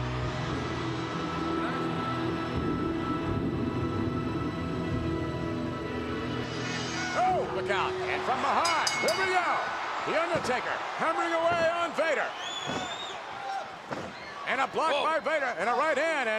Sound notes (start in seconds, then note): 0.0 music continues; 0.9 thunder rumbling